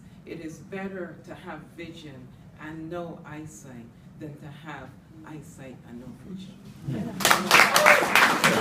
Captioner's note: applause